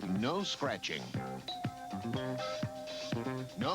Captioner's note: doorbell